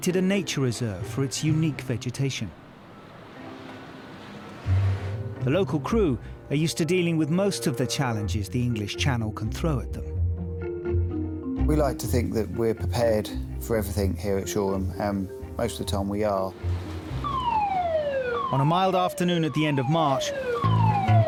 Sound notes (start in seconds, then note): 17.0 alarm blaring